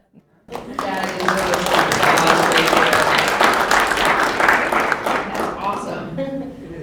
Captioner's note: applause